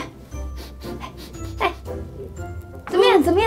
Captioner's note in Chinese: 嗅聞聲